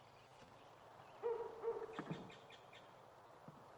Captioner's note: dog barking